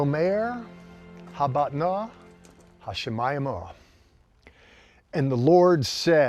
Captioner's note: speaking in Hebrew